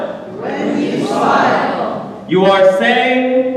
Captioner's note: audience repeating